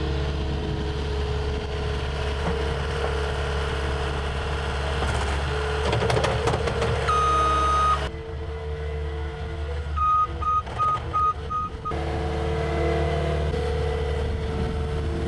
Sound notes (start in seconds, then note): 7.0 skid steer beeping